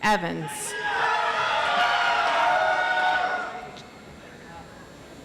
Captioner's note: audience applauds